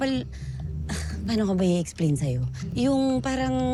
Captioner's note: sighs